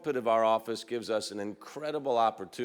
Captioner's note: none